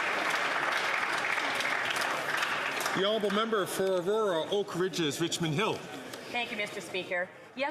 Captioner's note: some Applause